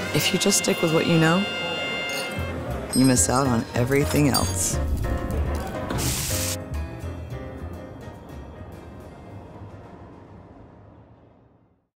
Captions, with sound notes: If you just stick with what you know, you miss out on everything else. (lively music) (food sizzling)